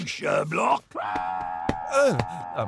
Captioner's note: Sherblock screams into pillow